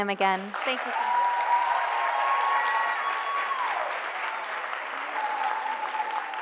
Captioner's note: audience cheering and applauding